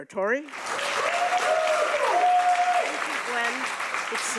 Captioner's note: audience applauding